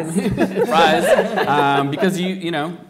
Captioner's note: laughing